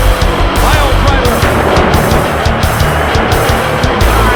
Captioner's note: tony schiavone at lower pitch strangely